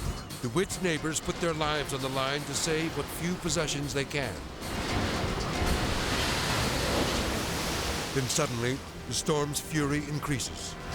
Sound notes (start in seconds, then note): 4.4 edgy dramatic music; 4.4 waves exploding